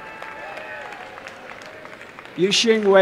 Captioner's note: applause and cheering